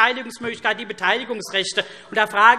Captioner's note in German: Lachen SPD